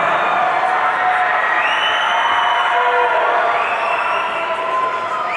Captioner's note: audience cheering